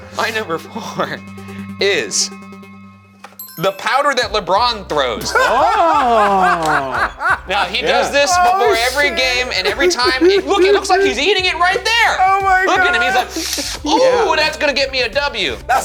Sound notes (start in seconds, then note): 5.5 laughing